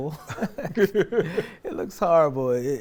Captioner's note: laughs